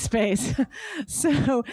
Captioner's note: laughs